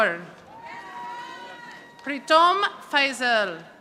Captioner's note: audience applauding